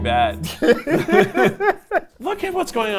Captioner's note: both laugh